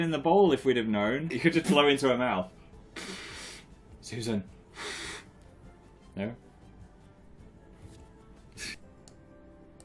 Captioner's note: Dmucha